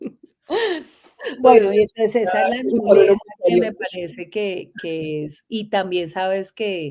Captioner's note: laughs